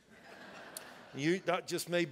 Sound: congregation laughs

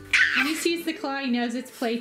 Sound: yell

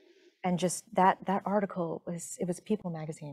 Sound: none

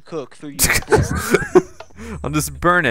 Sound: laughs

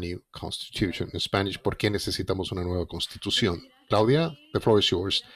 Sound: speaking in foreign language

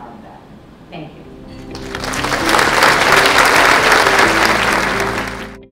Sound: applause

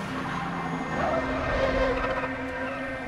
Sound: tires screeching

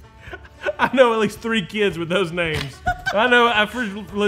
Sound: laughing

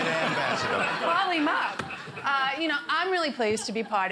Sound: man in crowd shouts

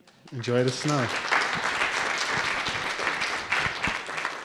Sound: applause

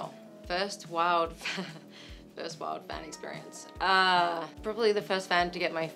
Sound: laughs

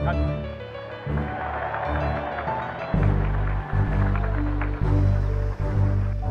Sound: crowd cheering

